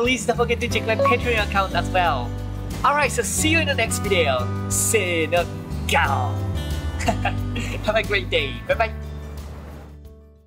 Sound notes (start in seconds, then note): 6.1 lion roar in Japanese